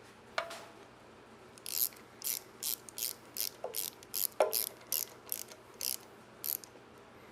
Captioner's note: racket sounds